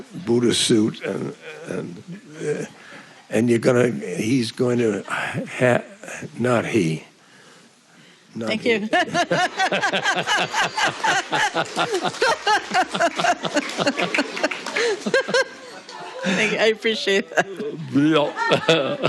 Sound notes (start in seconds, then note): 10.5 roaring Laughter